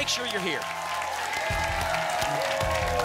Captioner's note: applause and cheering cont